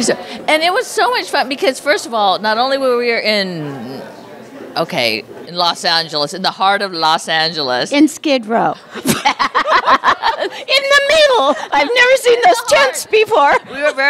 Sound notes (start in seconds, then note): 8.9 laughter